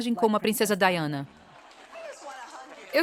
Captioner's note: crowd applauds